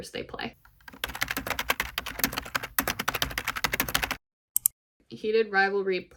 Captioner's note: keyboard typing sounds